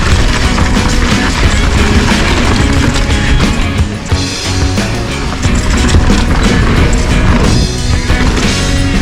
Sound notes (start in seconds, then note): 5.3 air whooshes